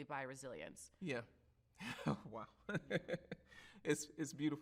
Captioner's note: chuckles